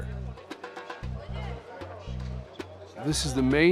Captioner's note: indistinct chatter